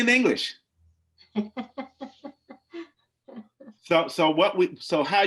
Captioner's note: laughs loudly